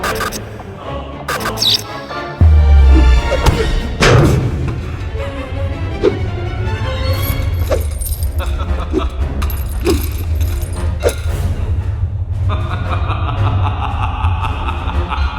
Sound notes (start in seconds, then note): 2.5 blow thuds; 3.2 vampire thuds; 5.8 air whooshing; 8.2 vampire laughing; 10.8 air whooshing; 12.4 vampire laughing